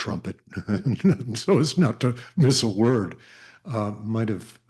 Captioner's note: laughs